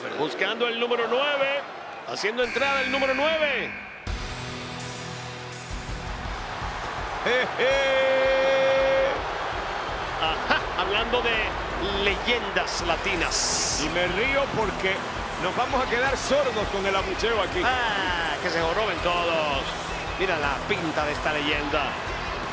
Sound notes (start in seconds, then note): 7.7 laugh